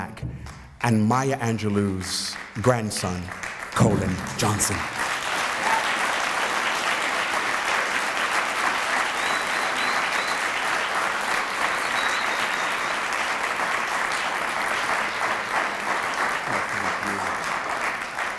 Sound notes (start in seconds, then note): 6.4 applause